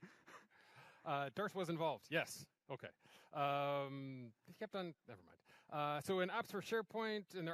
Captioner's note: laughter